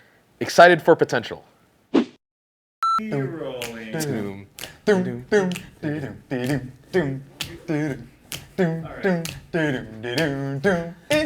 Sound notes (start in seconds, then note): 5.5 snapping to the beat!